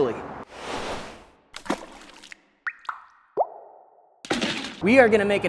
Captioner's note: whooshing; splashing and dripping